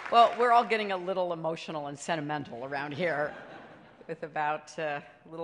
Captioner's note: laughter